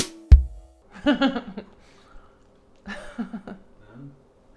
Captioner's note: laughing